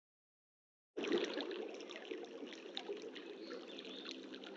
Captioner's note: water rippling